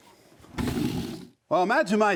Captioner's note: wood sliding